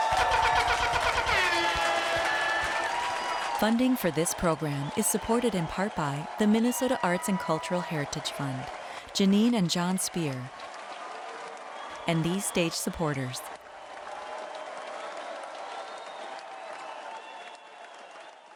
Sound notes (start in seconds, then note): 0.0 audience cheering; 0.2 air horn blaring; 14.5 audience cheering